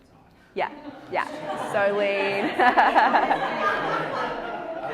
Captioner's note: audience laughs